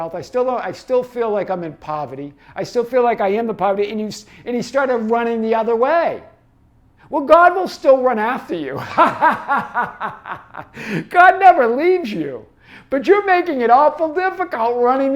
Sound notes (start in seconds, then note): 8.8 laughs